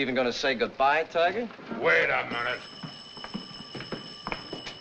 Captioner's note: phone ringing